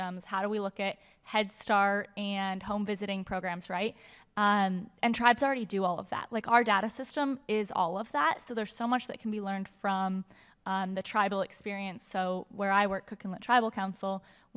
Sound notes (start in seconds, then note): none